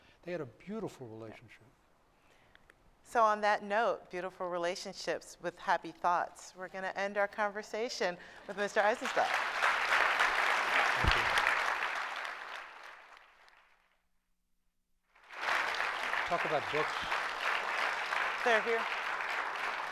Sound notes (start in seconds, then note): 9.7 applause